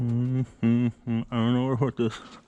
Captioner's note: humming